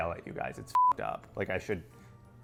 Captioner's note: beep